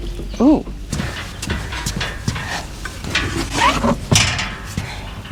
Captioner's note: solid thud of heavy boots walking across the wooden trailer decking